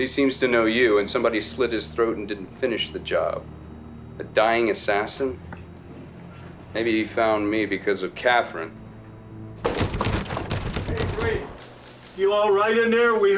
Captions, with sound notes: - Well he seems to know you, and somebody slit his throat and didn't finish the job. A dying assassin? Maybe he found me because of Katherine. (door rattling) - Hey Drake, you all right in there?